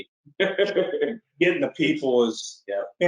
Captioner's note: laughs